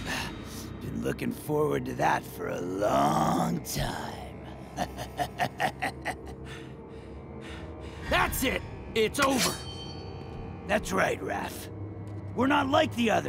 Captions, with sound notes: I've been looking forward to that for a long time. [laughing] That's it, it's over. That's right, Raph. We're not like the others.